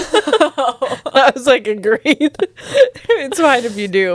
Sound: laughs

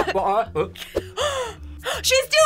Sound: React gasps

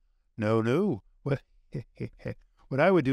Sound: chuckling

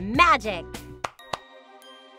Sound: Barbie claps hands; gentle music

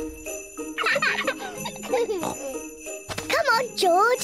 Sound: both giggle

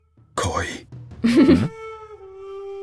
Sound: chuckles

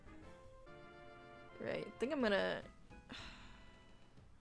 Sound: sighs

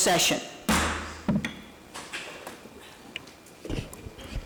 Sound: banging

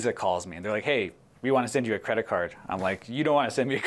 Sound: laughter

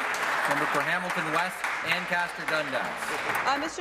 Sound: applause

